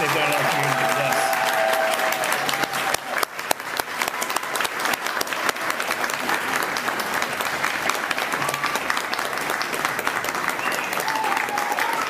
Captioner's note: applause